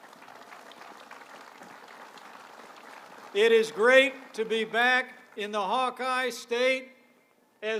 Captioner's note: applause